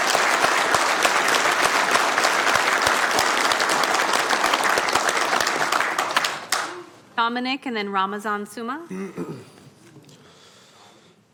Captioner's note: applause